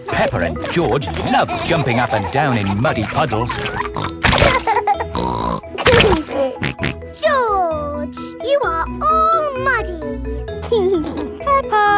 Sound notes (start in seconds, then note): 4.4 laughs and snorts; 10.7 giggling